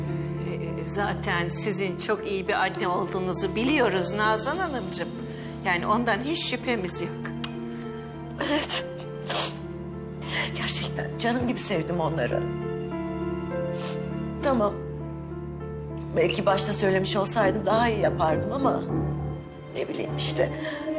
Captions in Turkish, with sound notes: Zaten sizin çok iyi bir anne olduğunuzu biliyoruz Nazan Hanım'cığım. Yani ondan hiç şüphemiz yok. Evet. (ağlıyor) Gerçekten canım gibi sevdim onları. Tamam belki başta söylemiş olsam daha iyi yapardım ama... ...ne bileyim işte.